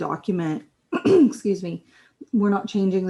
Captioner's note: clears throat